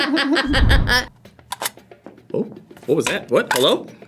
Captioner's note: both laugh; game clicks